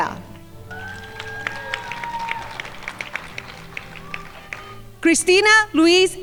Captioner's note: crowd applauding